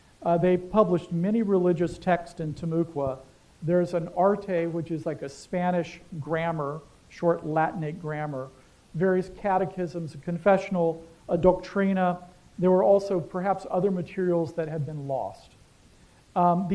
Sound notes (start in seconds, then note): 4.1 non-english; 11.4 non-english